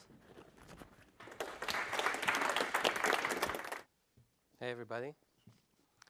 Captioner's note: applause